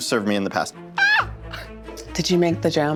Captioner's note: squeals